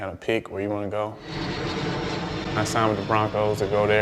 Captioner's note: plane engine roars